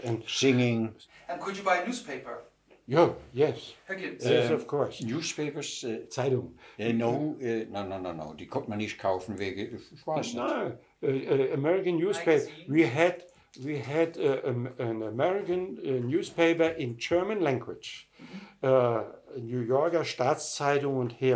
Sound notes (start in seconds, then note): 6.0 speaking in German; 9.3 speaking in German; 18.9 speaking in German